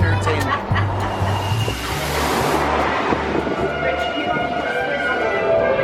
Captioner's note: laughs; jazz music